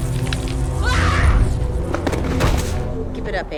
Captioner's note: screaming